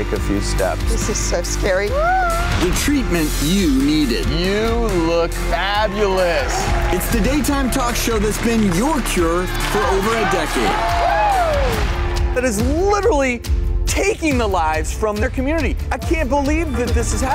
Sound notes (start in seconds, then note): 1.9 Abby Lee screams; 10.1 audience cheers